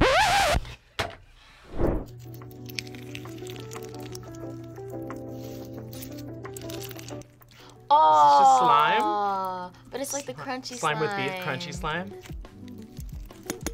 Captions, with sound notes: (record scratches) (slime squelches) - Aw! - Is this just slime? - But it's like the crunchy slime! - Slime with beads, crunchy slime?